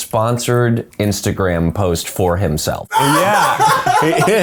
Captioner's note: laughs